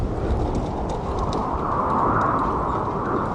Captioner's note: the wind is blowing hard